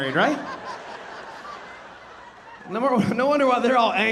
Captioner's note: audience laughing